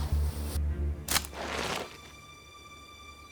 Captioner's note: twig snaps